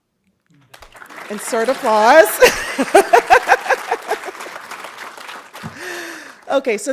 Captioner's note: audience applauding